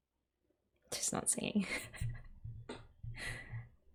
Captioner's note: laughs